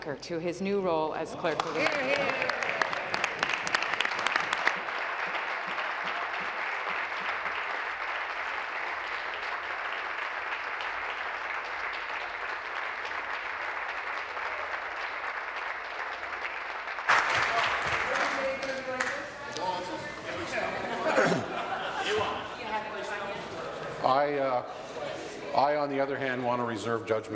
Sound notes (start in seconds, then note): 6.7 applause